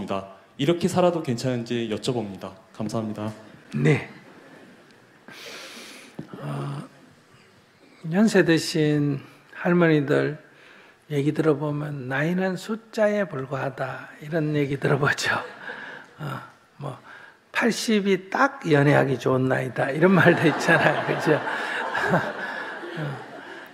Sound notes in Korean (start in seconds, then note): 15.9 스님 웃음; 20.1 청중과 스님 웃음